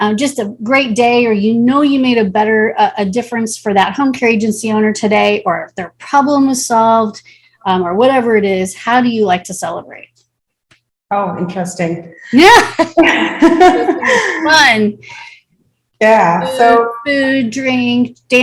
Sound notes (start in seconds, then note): 12.7 both chuckle; 12.7 chuckles